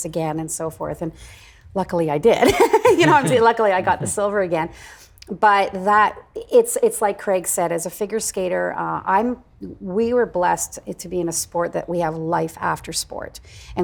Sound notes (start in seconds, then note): 2.4 laughing